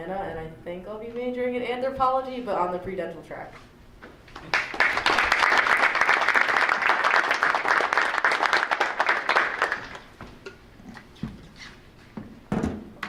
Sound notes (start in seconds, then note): 4.3 group applauding